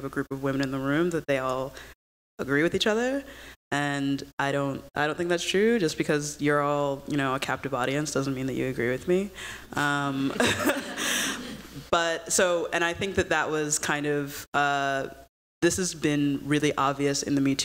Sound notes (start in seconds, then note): 10.3 laughter